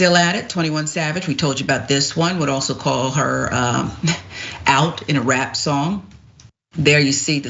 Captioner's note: laugh